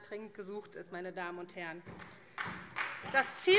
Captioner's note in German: Beifall SPD